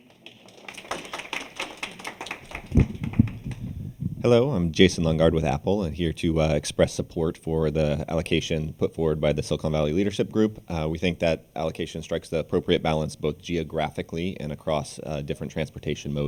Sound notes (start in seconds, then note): 4.1 applause